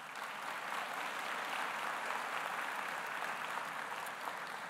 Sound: audience applauding

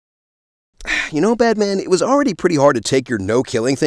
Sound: sigh

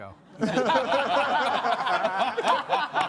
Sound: all laughing

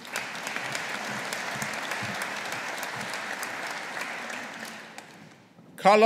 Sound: audience applauding

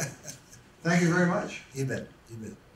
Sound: laughs

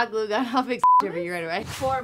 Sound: beep

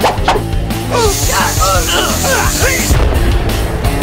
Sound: grunting

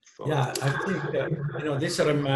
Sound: laughs

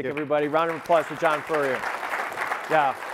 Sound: audience applauding

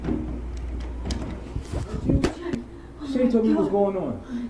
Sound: door opens

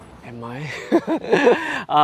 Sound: laughs

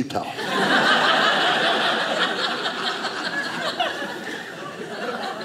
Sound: audience laughing

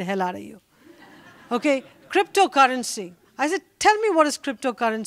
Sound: laughter

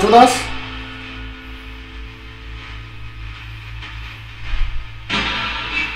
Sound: radio noise hissing continues; radio noise reverberating

